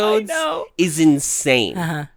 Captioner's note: laughs